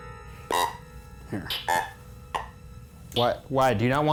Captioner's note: electronic beeping